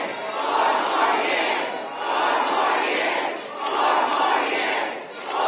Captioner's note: applause